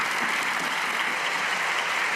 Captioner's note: cheers and applause